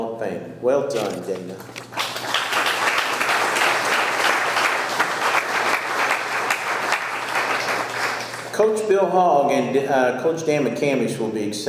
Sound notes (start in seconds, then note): 1.5 audience clapping